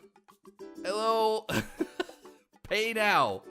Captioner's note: laughs